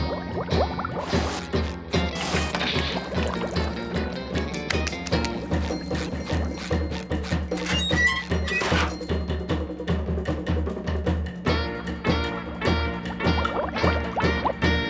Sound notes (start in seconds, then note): 4.2 clapping hands; 6.0 squeaky boots; 7.4 creaking door; 12.9 water bubbles